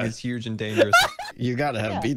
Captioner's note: starts laughing